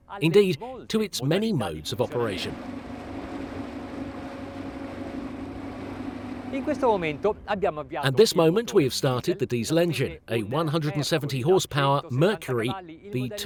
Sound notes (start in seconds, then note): 3.7 engine hums; 7.0 speaks in foreign language